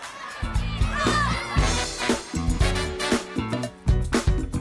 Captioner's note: crowd chatter